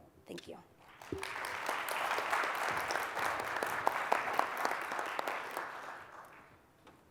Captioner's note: applause